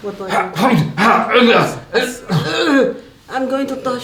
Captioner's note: grunting